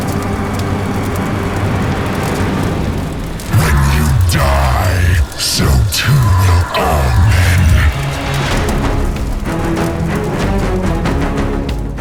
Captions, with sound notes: - [Demonic Voice] When you die, so too do all men!